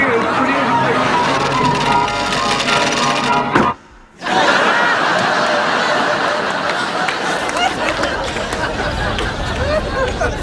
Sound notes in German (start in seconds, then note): 1.2 Münzen rasseln; 4.0 Klicken